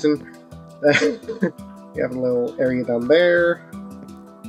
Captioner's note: laughs